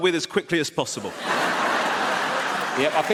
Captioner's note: audience laughs